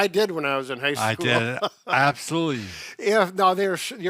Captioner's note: chuckling